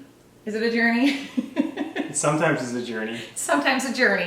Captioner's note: laugh